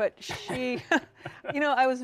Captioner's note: chuckling